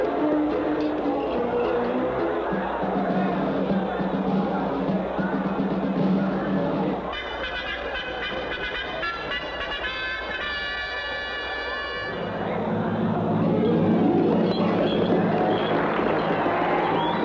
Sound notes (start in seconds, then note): 12.4 crowd Noises, Horses Trotting; 13.6 cheering